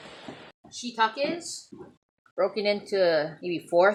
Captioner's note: none